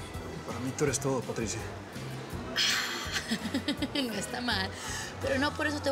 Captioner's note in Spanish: risas